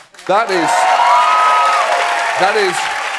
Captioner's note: cheering and applause